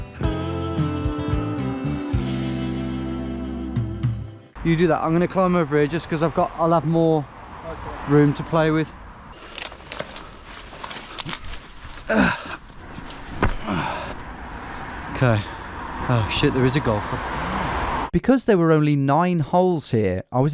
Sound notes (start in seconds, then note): 9.3 twigs cracking; 12.0 groaning